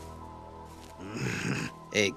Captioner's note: growl